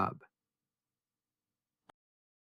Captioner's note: pause